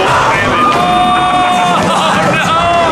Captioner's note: yelling